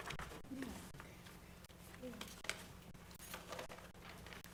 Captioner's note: board chatting quietly